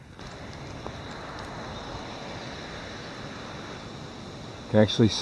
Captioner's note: water rushing